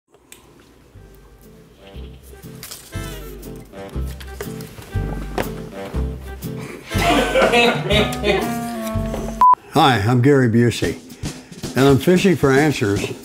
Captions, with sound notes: (orchestral music) (laughing) - Hi, I'm Gary Busey and I'm fishing for answers